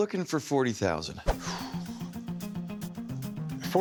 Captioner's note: exhales